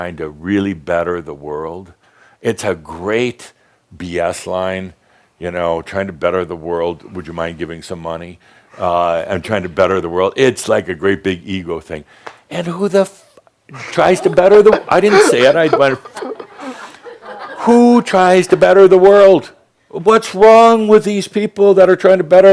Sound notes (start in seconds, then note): 13.7 giggles; 17.0 some giggles in audience